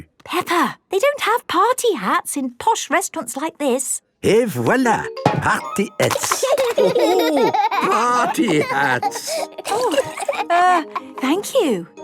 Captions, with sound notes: - Peppa! They don't have party hats in posh restaurants like this! - Et voilà! Party hats! - (laughing) - Oh, ho! Party hats! - Err... thank you.